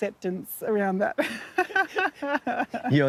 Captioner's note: laughs